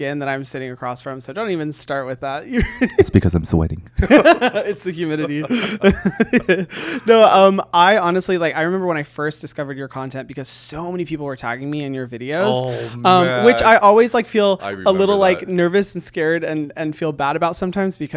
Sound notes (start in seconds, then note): 4.0 both laughing